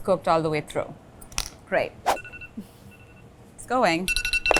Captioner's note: alarm ringing